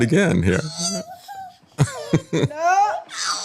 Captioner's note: laughter